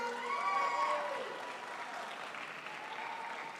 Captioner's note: crowd applauds